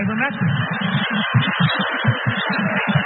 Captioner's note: laugh